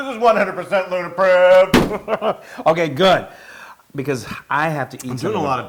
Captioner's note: laugh